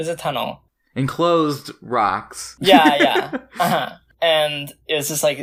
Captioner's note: laughs